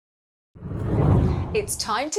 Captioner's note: hard whooshing